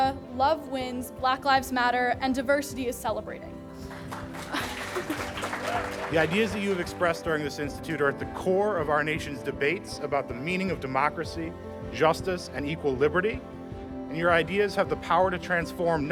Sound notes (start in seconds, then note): 3.8 applause